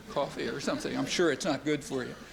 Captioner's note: laughter